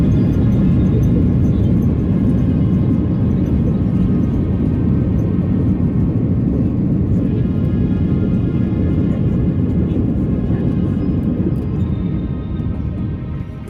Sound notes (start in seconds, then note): 8.1 engine decelerating